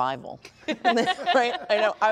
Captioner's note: laughter